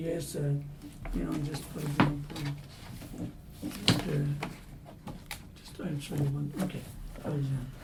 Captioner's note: papers rustling, mumbling